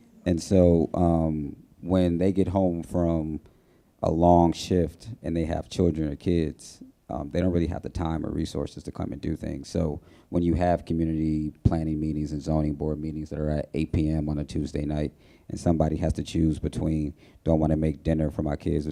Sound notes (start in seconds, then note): none